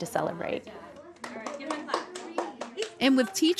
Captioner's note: students clapping